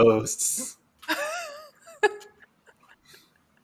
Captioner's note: laughter